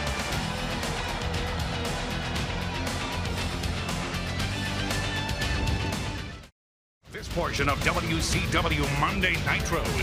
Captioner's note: crowd chatter